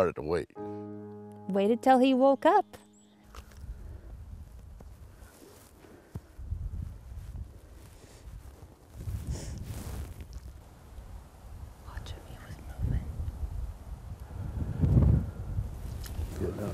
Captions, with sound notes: AND WE STARTED TO WAIT. - WAITED UNTIL HE WOKE UP. [WIND GUSTING] - WATCH HIM. HE WAS MOVING.